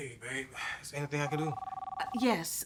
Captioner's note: phone ringing